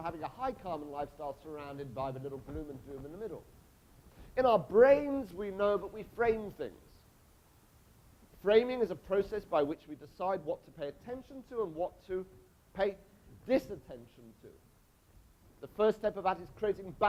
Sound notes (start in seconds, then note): none